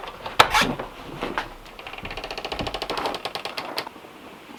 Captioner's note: door creaking